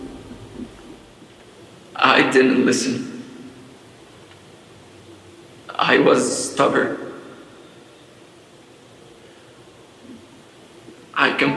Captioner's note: crying